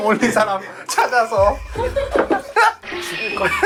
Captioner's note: tearing up